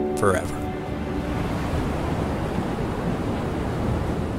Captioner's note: waves crashing